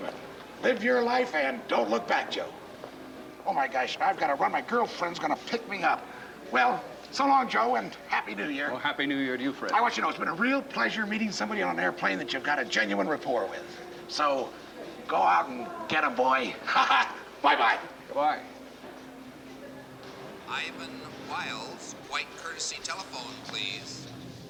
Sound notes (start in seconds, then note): 16.5 laughs